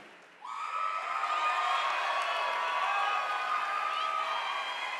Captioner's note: audience applauding